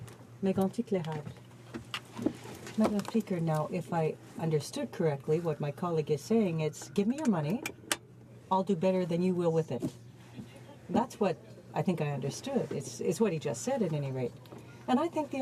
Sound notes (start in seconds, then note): 2.7 speaking French